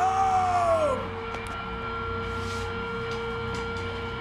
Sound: crowd cheering

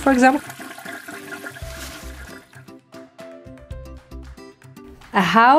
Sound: flushing Toilet

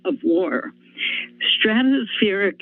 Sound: inhales

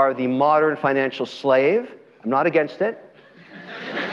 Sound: audience laughter

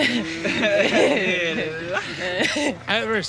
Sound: laughter

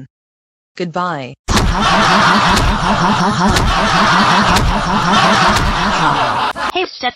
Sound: Stephanie and Lucy laughing

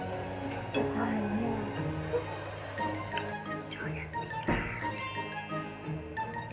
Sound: whisper

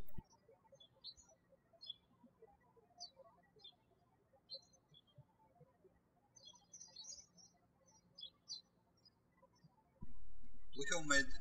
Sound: birds chirping

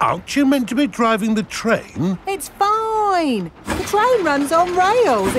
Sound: none

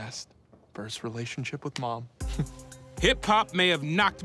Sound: chuckles

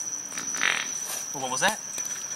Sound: farting noises

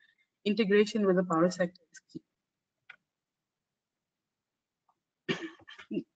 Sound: audio static

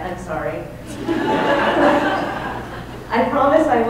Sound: laughing

